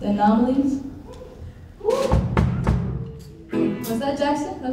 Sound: audience cheering

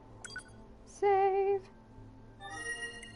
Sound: singsong

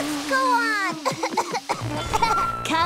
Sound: coughing

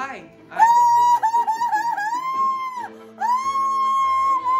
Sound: woman cheers

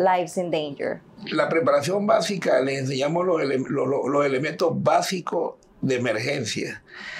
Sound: speaking in Spanish

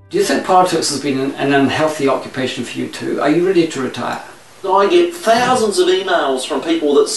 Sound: puppet speaking

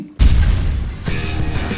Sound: explosion; energetic rock music

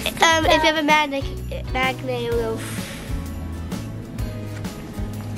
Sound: blows air

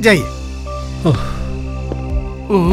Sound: sighs

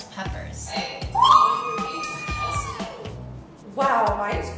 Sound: screaming

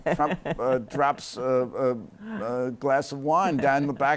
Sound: laughter

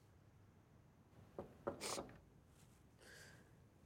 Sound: knocking

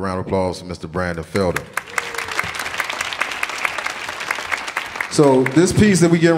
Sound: audience applauding

